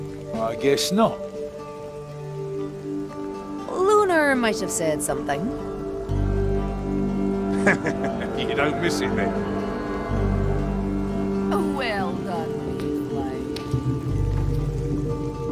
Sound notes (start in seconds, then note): 7.5 laughs